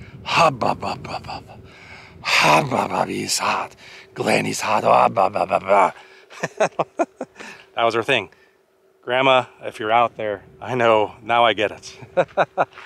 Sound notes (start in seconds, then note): 6.3 laughter